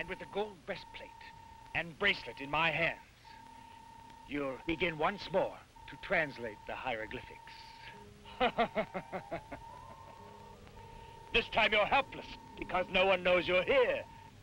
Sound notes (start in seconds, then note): 8.3 Krupp laughs